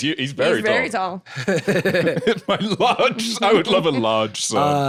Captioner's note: both laughing